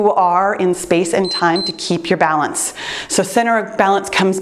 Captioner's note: timer beeps